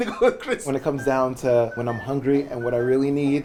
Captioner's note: happy whistling